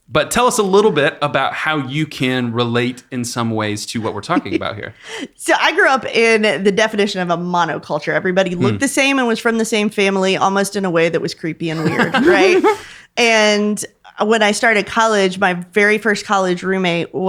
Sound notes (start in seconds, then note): 11.7 laughing